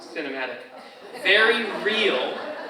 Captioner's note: audience laughs